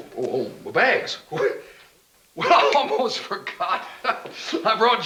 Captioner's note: laughing